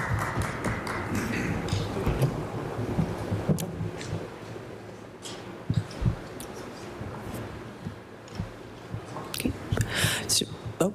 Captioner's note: applause